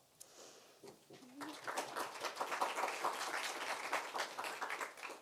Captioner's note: applause